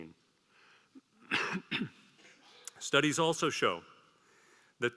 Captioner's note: cough